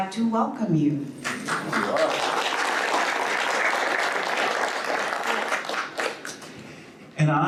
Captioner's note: audience applauds